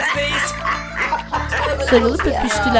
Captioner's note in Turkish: Gülme sesi